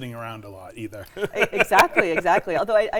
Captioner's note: laughs